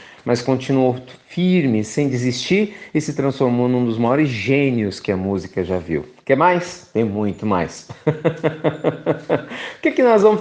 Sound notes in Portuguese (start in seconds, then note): 7.8 risos